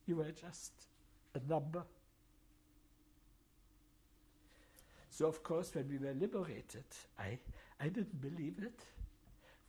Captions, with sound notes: You were just a number. [PAUSES FOR 3 SECONDS] So, of course, when we were liberated, I-- I didn't believe it.